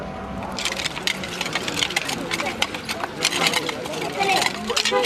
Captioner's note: digging tools scraping against rocks and dirt